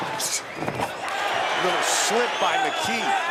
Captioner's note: audience cheers